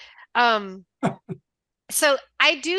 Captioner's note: laughing